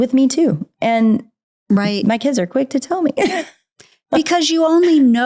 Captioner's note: laughs